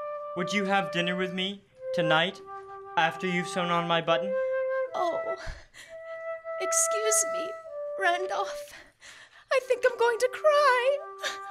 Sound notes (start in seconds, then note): 5.9 choking up; 11.3 cries